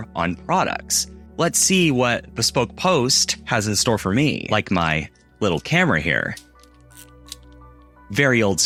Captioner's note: snaps photo